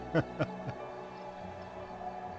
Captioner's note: laughter